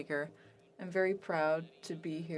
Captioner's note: speaking French